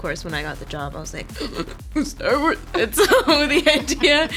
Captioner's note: gasps